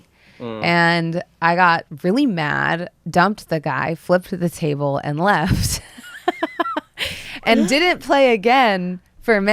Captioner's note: laughter